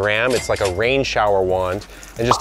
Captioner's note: cash register rings